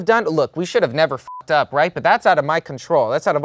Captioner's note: beep